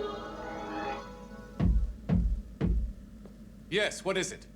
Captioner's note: knocking